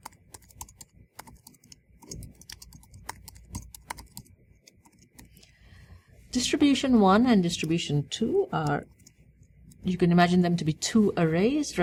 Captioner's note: pause